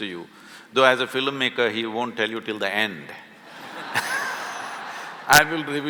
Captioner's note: laughter